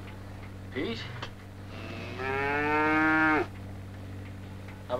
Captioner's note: Pete mooing